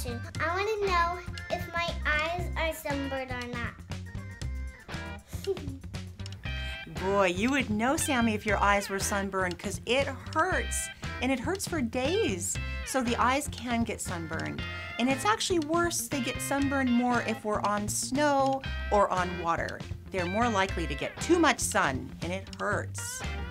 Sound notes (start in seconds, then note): 5.2 giggle